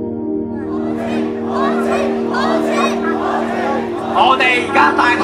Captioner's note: yelling at the police